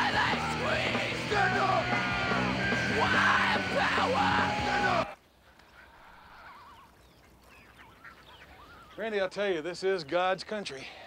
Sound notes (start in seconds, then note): 6.1 birds chirping